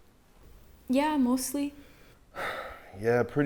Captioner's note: sighing